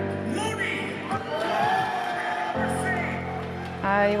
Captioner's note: cheering